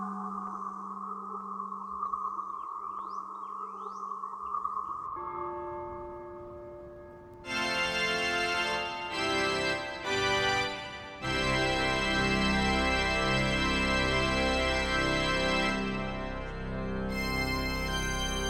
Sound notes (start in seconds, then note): 5.0 church bell rings